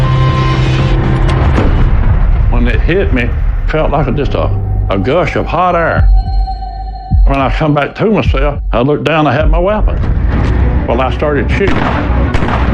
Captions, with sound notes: Whenen it hit t me, fe, felt lia gush of f hot air.r. [ HeHeart beatating ] Whenen I come e back to o myseI lolooked dowown, I hadad my we. And I I started shshooting..